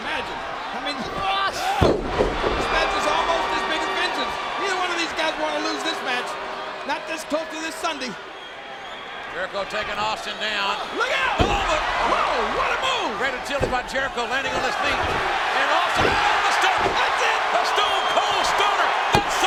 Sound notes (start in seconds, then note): 12.6 audience cheers; 16.9 audience cheers